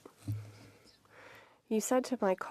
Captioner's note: speaking French